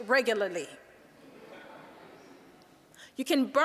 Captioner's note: audience laughing